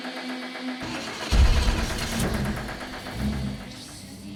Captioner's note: car starting